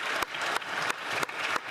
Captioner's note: applause